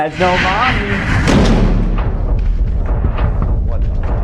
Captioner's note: door slams